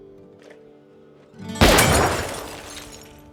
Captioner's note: gunshot